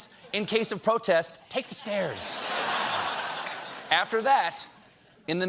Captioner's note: laughter